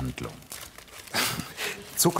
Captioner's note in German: Er lacht